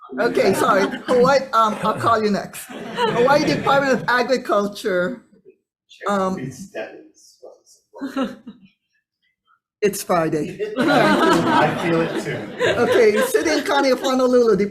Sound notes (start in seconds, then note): 6.8 Department of Agriculture representative speaks faintly